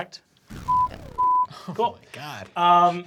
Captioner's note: beeping